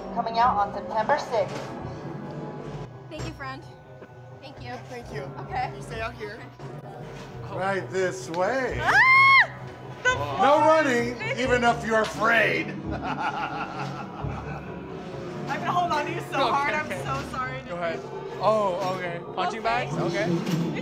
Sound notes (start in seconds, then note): 12.8 laughs sinisterly